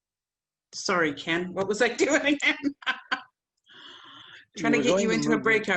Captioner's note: laughs